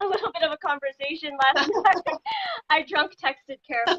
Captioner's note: laughing